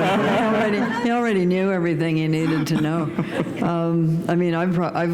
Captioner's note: laughter